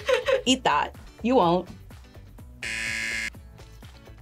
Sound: PvF laughs; buzzer rings

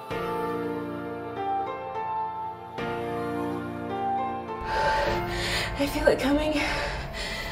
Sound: synthesized Piano Music; heavy Breathing

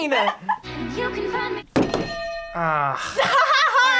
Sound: bells ring; laughs

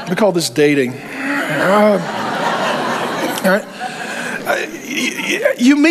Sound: congregation laughs

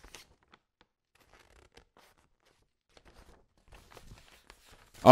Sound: awkward Silence

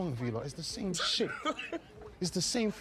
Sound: laughing

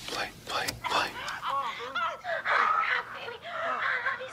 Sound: both moaning

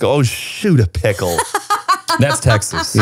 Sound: laughs

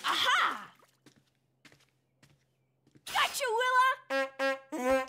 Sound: horns honking

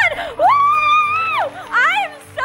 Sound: celebratory screaming

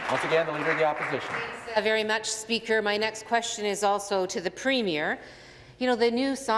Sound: applause

